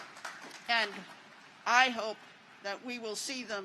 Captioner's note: applause